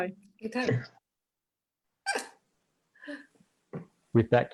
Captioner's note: laughs loudly